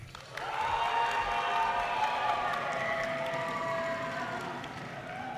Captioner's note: audience cheers and applause